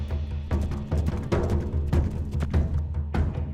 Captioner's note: horses galloping